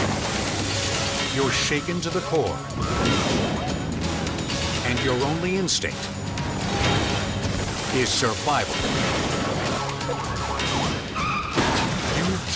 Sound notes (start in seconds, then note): 0.1 vehicles slam; 3.1 bike slams; 9.4 guns fire